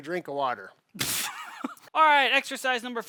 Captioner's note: chuckling